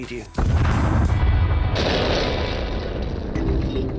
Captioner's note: explosions